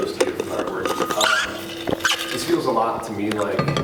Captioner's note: lid squeaking